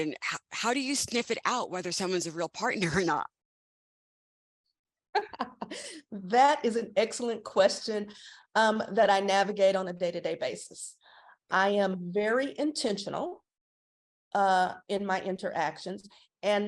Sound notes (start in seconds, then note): 5.2 laughing